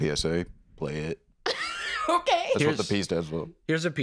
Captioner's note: laughs